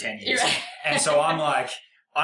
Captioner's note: laughs